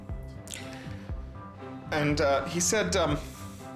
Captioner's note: voice breaking